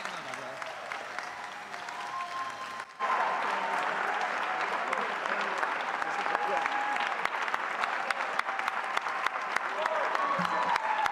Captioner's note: cheering